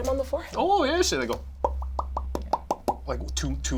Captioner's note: imitates popping